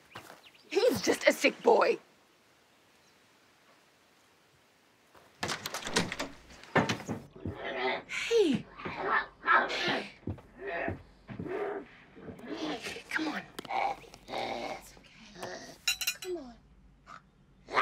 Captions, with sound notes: He's just a sick boy! - [grunting] - Hey. Hey. Here. Come on. - [grunting] - That's okay. Come on.